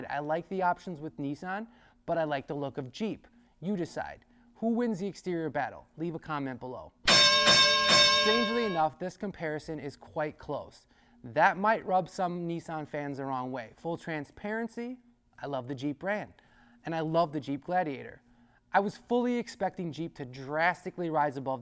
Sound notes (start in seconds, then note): 7.0 clanging bell